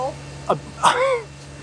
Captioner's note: laughs